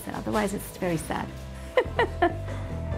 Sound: laughs

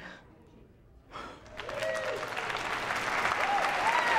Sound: audience applauding and cheering

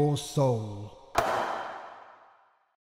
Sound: gavel strike

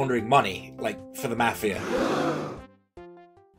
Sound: crowd gasping sound effect

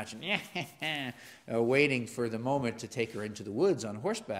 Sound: laugh

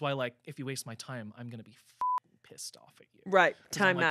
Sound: beep

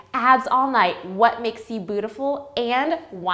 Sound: none

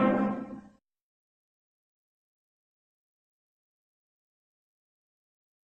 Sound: silence

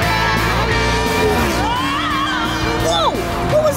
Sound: screaming

